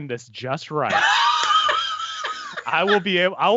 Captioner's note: laughs